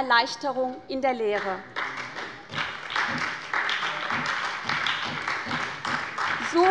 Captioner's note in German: Beifall bei der SPD